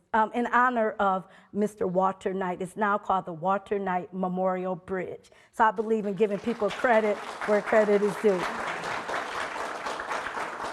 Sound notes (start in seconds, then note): 6.3 audience applauding